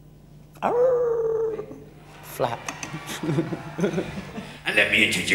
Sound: person howling; howls; laughs

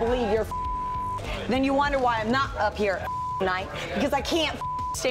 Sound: beep; beep

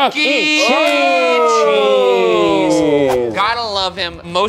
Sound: group gasping

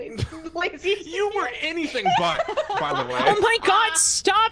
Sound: laughs

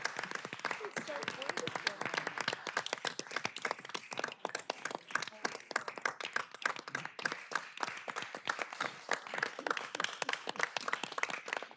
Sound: applause

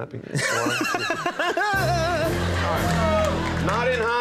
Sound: audience laughing

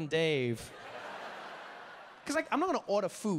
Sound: audience laughing

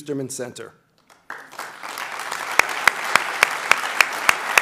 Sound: applauding

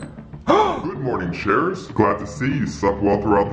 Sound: gasps

